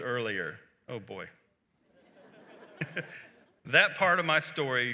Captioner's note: laughter